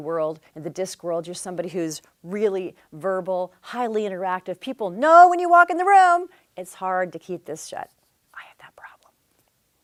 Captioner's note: whispers